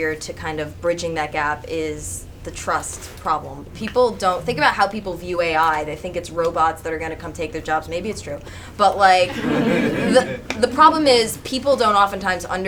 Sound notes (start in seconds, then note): 9.2 audience chuckles